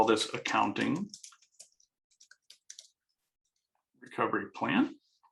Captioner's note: keyboard clanking